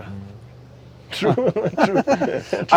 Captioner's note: laughs